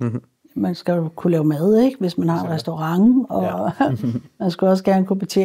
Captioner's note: chuckles